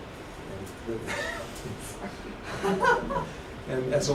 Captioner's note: laughter